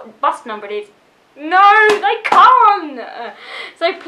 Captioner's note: claps hands for emphasis